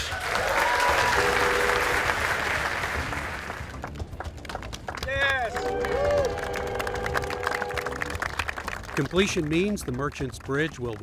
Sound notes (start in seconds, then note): 0.2 crowd cheers and applauds; 5.6 horn honks; 6.4 group applauds